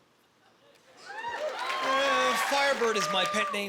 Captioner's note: cheering